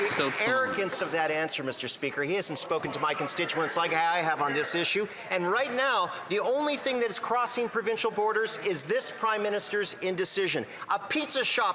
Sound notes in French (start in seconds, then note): 4.5 voix de l'interprète